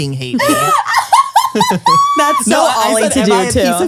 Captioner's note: laughs